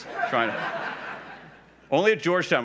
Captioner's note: laughs